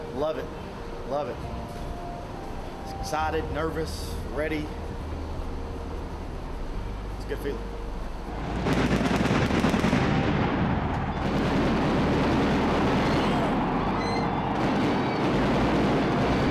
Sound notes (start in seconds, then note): 8.3 fireworks boom